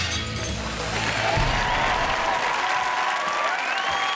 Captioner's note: logo whooshing; glass breaking; audience cheering and clapping; audience whistling